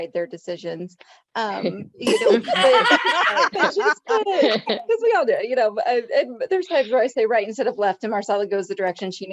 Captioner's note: laughter